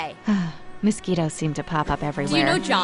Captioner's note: sighs